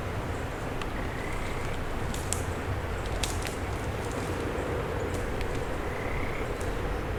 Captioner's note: frog croaks; twigs crackling